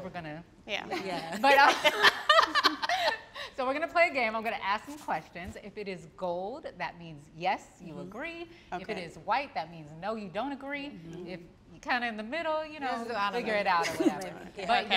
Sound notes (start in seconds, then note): 2.6 all laughing